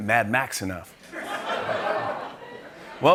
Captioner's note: laughter